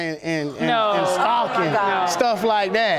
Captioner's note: audience gasps